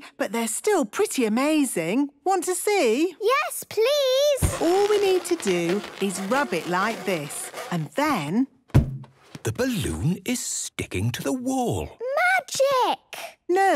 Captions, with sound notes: But they're still pretty amazing. Want to see? - Yes, please! - (balloon rubbing) - All we need to do is rub it like this... And then... - (balloon echoes) - The balloon is sticking to the wall! - Magic!